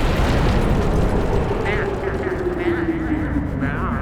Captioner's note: thunder crashes; echoing